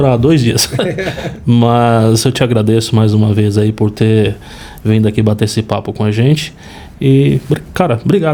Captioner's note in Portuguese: risadas